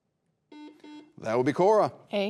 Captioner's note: buzzer beeping